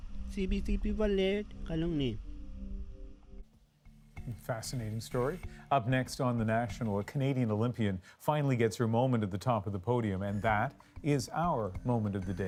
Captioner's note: speaking inuktitut